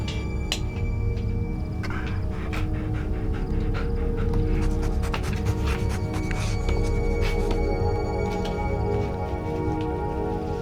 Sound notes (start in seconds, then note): 1.6 Lana panting and sniffing